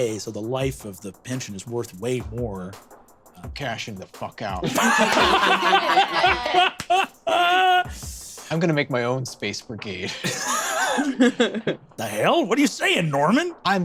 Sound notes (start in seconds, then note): 4.6 laughs; 10.0 laughs